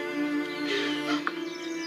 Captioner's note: sobs